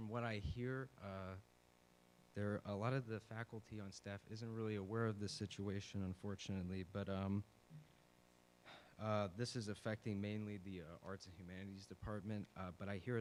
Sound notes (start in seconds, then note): 8.6 sigh